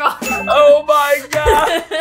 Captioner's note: bell dings